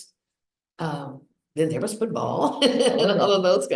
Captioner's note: laughs